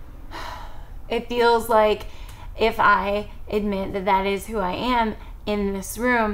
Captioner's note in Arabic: تتنهد